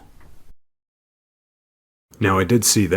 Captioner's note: silence